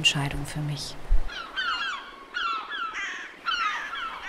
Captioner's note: seagulls